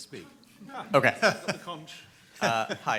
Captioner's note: group laughs